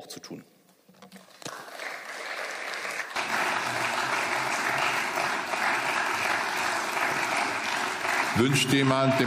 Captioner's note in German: Beifall